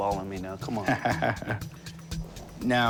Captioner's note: laughs